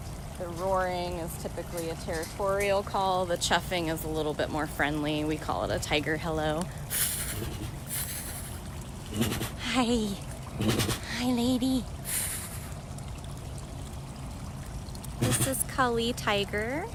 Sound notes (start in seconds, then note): 6.9 chuff